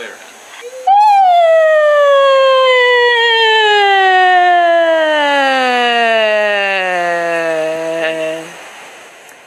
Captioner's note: sound decreasing in pitch